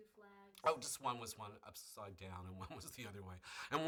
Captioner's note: laughs